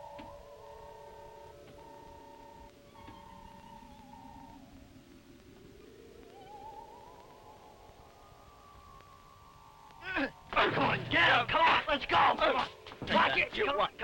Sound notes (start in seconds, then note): 10.3 gun fires